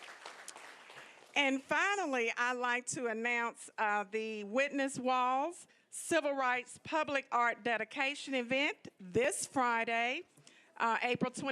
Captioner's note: applause